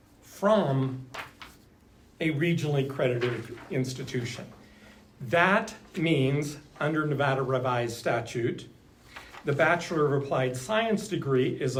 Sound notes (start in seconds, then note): none